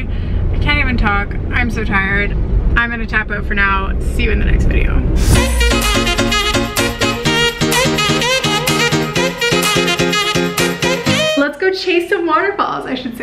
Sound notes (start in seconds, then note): 5.2 upbeat music; 5.2 whooshing